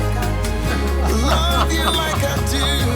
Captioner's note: Jesse and Florio laugh